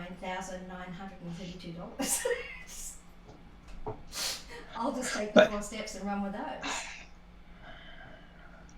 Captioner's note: laughter